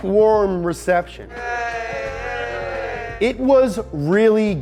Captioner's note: stifled cheering